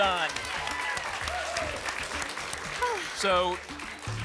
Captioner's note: applause